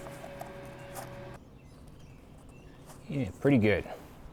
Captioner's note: drilling